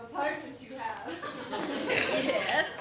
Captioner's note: laughter